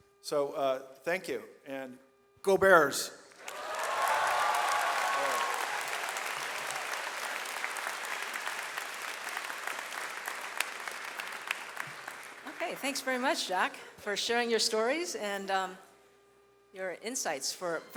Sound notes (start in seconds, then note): 3.3 audience applauds